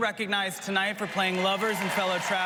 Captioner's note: applause